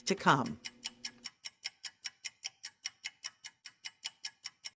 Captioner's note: clock ticking